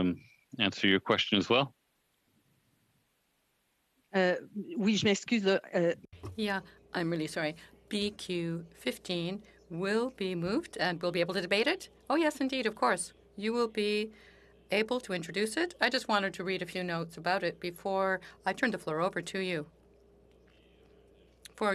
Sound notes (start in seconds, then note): 12.2 speaking French